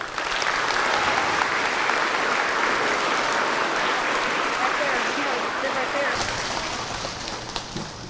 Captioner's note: applause